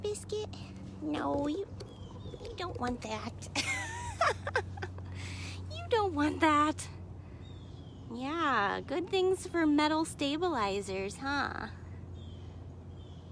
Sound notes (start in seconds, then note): 2.4 laughs